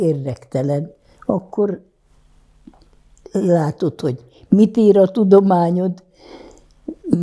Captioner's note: counting